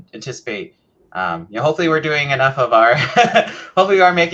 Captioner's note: laughs